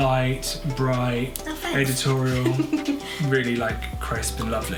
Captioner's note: laughs